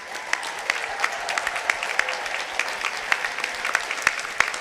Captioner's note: audience applauding